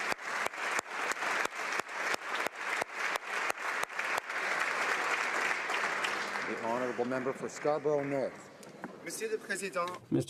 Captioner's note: applause